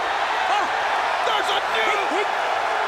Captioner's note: audience cheers